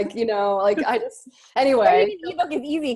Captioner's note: laughing